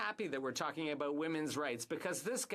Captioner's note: speaking French